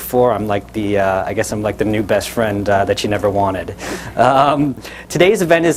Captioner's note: chuckles